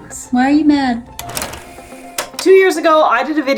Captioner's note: background music; film rolling sound effect